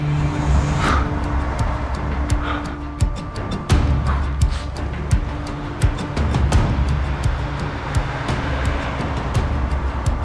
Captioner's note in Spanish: Ruido de algún vehículo